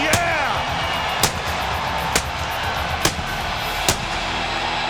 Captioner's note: pyro exploding